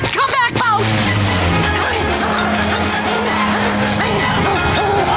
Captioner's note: panting